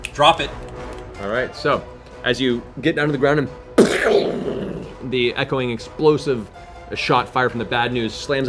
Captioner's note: gunshot blast